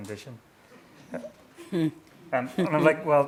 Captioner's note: chuckling